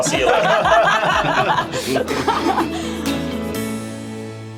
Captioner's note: laughs